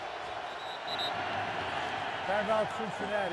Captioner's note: whistle